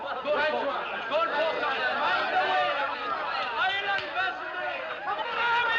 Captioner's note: Todos tagarelando, gritando